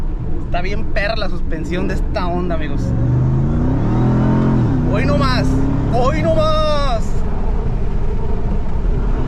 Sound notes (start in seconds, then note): 6.8 supercharger noise